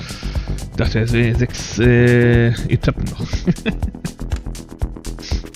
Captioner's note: laughs relieved